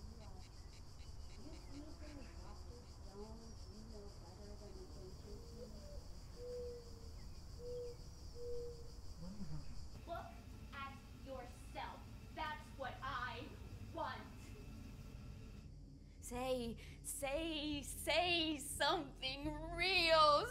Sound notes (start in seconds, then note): 6.3 owls hooting